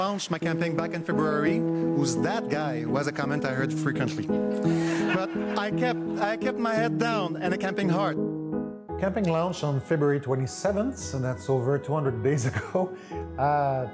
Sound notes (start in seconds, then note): 4.6 crowd laughing